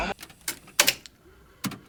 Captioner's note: click